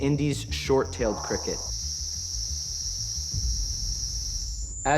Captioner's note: chirping